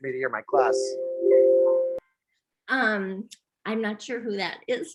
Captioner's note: notification alert sound